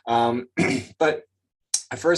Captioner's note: clears throat